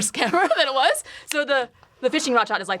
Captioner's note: both laugh